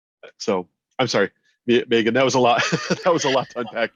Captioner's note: laughs